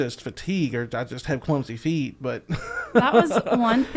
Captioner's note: laughing